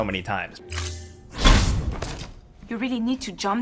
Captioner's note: NPC thuds